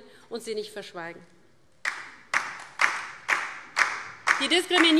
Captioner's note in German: Beifall DIE LINKE